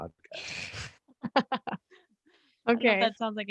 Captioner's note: all laugh